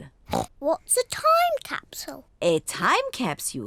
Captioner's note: oinks